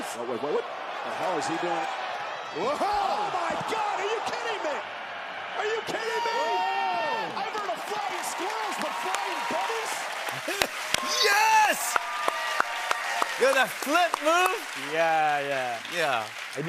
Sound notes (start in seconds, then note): 11.4 cheers and applause